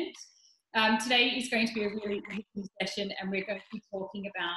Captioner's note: audio glitches